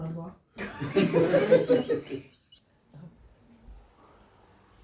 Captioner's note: audience laughs